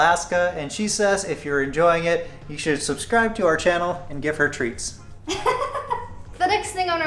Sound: laughter

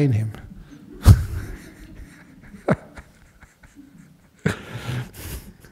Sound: Ajahn laughing

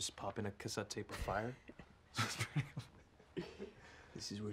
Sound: both laugh

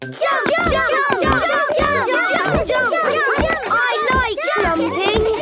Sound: all shouting "Jump! Jump!"

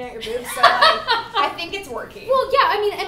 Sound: laughter

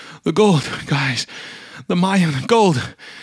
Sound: breath; deep Breath; breath

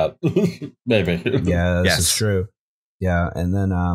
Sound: laughter

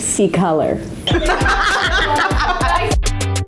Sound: laughing; happy music

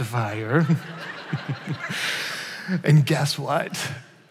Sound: chuckles

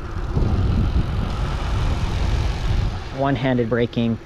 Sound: bike motor whirring

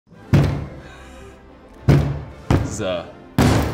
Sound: uplifting music; brick thumping

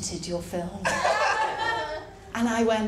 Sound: laughter

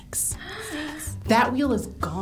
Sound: gasps

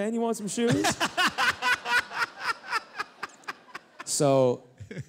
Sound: laughter

